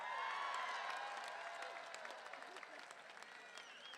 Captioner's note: crowd cheering